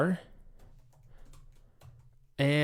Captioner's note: keys clicking